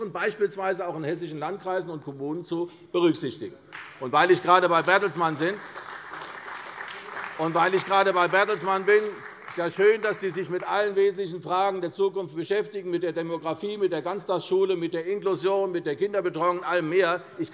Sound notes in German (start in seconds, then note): 3.7 Beifall bei der CDU